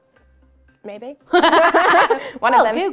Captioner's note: laughs